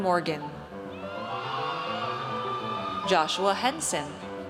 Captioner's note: audience cheers